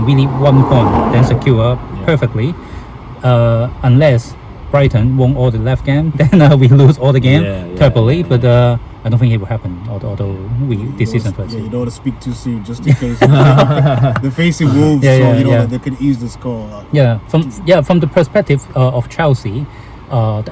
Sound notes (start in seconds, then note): 12.8 laughing; 12.8 笑聲